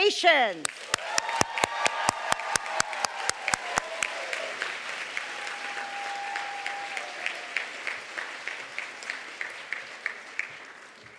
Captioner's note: applause